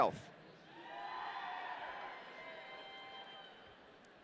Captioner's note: audience cheering